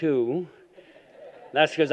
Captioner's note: laughter